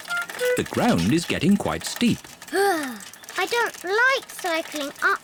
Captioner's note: groans